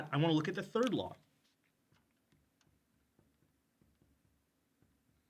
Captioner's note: marker cap clacks